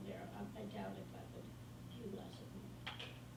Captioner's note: faintly speaking